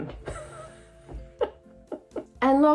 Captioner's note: chuckling